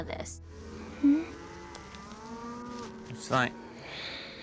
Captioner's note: mooing